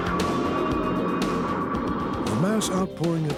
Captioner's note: helicopter whirring